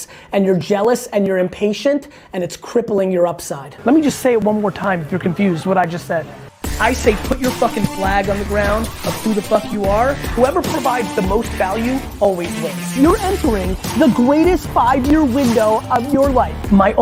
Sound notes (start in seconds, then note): none